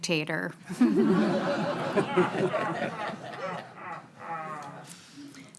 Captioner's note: everyone laughing